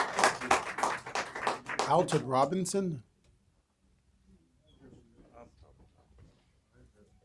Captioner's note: applause